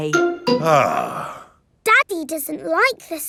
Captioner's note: sighs